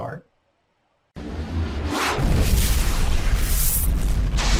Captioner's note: fire explodes